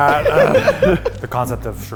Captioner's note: laughs